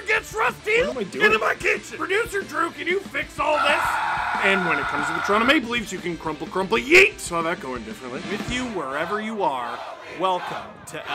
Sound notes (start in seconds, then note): 3.5 screaming